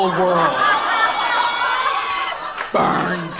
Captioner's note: audience laughs